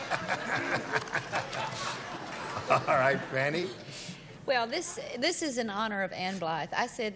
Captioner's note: laughs